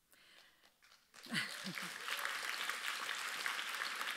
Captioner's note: audience applauds